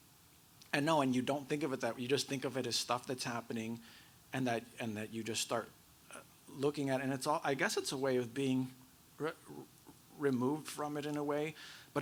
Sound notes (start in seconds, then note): none